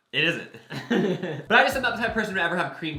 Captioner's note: laughs